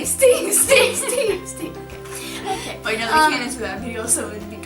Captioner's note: laughter